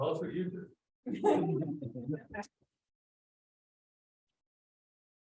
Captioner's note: audience laughs